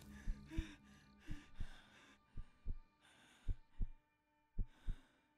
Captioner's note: heart beating